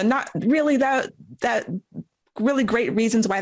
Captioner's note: stammering